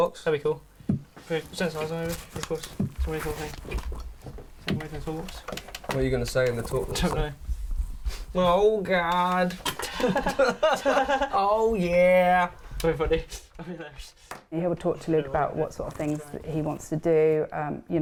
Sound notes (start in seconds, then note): 8.2 in a mock electronic voice; 9.7 the both laugh